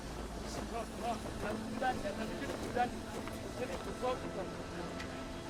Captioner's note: speaks foreign language